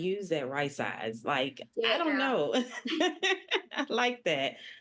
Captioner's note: laughing